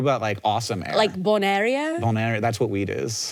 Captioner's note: speaking in foreign language